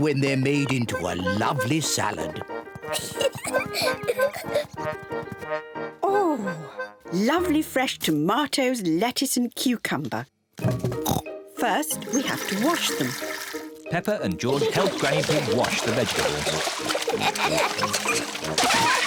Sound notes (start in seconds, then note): 2.9 peppa pig laughs; 11.0 oinks; 17.0 both laugh